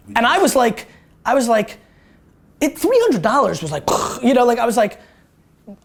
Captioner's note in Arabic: يقلد صوت انفجار